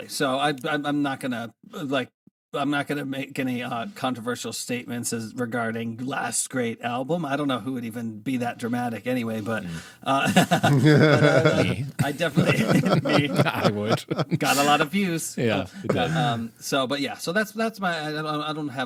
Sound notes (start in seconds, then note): 11.7 both laughing